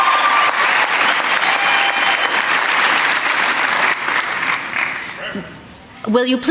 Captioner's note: applause